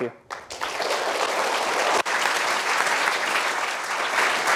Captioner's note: applause